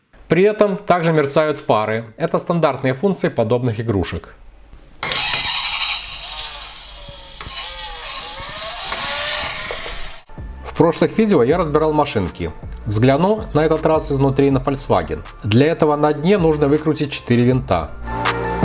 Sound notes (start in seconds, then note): 5.0 sound of the engine when it starts up and in motion